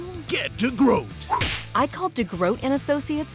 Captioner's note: punch!